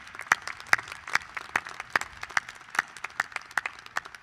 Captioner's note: applause